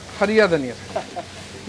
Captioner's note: giggle